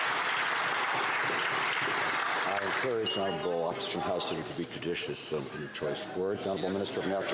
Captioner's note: some Applause